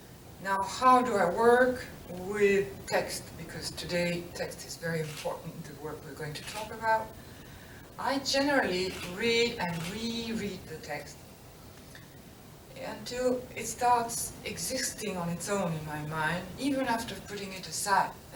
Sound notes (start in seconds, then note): none